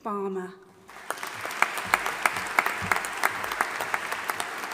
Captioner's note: audience applauding